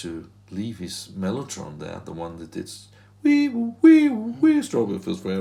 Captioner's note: humming